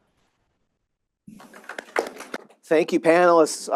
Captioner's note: audience clapping